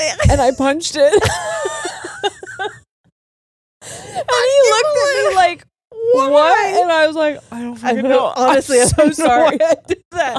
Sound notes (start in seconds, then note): 1.0 both laughing